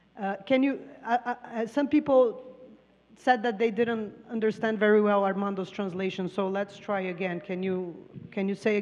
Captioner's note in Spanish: Traductora habla en inglés; Expositor habla en inglés